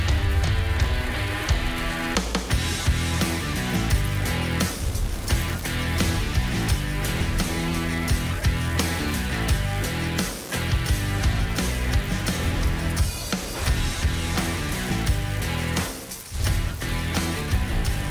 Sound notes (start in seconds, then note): 1.0 electricity fizzing; 1.0 energetic music continues; 10.0 electricity fizzing; 10.0 energetic music continues